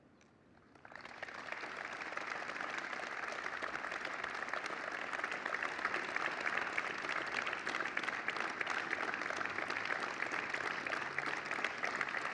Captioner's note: applause